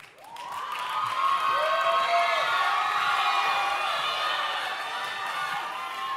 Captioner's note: audience cheering and applauding